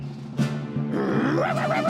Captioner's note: barking